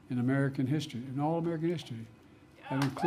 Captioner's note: applause